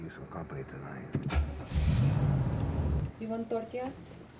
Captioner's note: engine turns over and revs